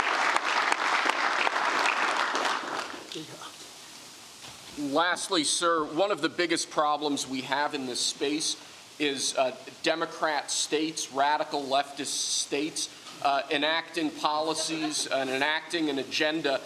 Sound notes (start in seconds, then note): 0.0 applause